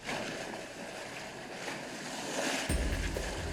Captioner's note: waves crashing; tense music